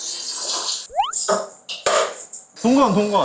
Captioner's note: water running / it sounds familiar